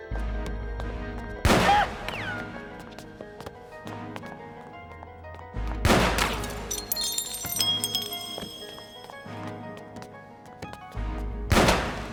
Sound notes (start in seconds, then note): 1.4 gun firing; 6.0 glass breaking